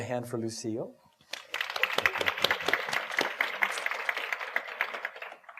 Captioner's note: audience applauding